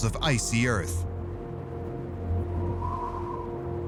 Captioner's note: wind howling